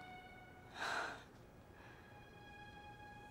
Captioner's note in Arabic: يتنهد